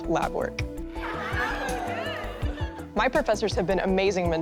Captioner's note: students cheering and laughing